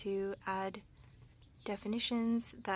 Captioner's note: speaking French